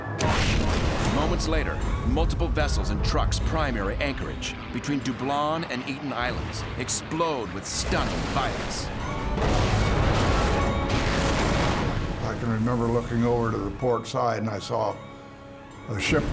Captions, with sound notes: [explosion] Moments later, multiple vessels in Truk's prime air anchorage, between Dublon and Eten Islands, explode with stunning violence. [explosions] I can remember looking over to the port side, and I saw a ship go up.